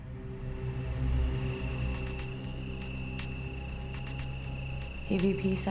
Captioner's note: ominous music; crickets chirping